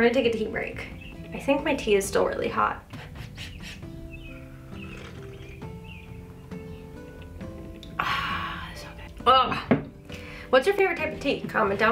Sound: blows on tea

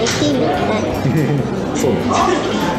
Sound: laughs

